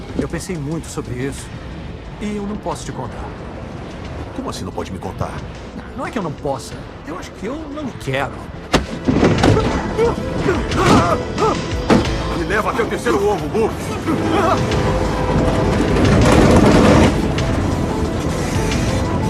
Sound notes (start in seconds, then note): 9.4 exclaims; 13.7 train horn blowing